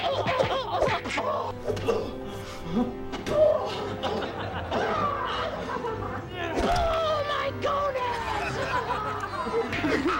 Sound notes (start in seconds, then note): 0.0 laugh; 0.0 punching; 2.1 laughter; 2.1 punching